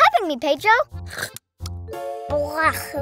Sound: Mia slurps

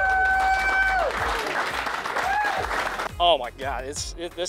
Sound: applause

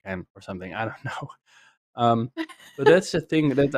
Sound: laughs

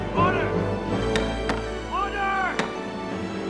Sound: gavel pounding

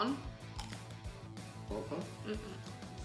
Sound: crunch

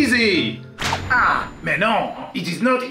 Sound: in French accent

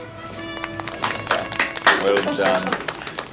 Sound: clapping

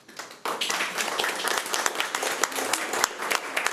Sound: applause

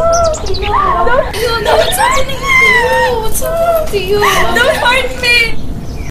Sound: crying

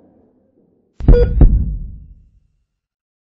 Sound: sound of heart beat

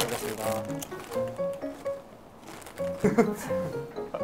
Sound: Crunch

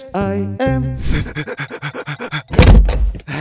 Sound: panting

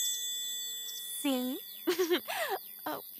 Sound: giggles more

